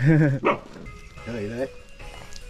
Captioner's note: dog barking